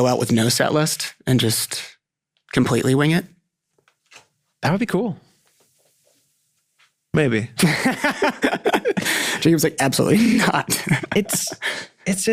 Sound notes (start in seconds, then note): 7.6 laughing